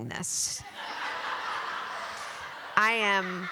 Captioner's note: laughter